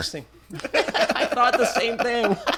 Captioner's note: laughter